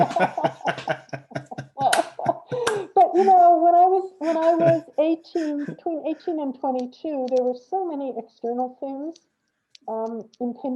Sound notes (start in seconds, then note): 0.0 both laugh